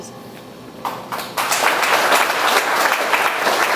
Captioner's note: audience chatters